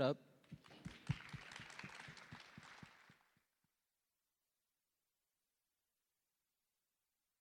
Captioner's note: applause